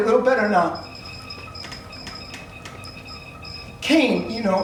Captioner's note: computer noises continue